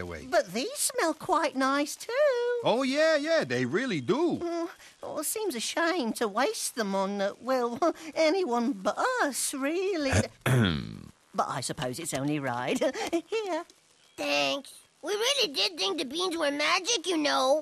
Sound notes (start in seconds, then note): 10.4 clears throat